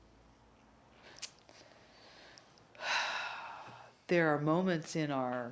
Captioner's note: lets out a deep breath